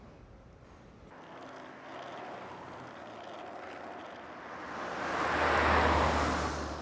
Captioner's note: scooter wheels rattling; car whooshing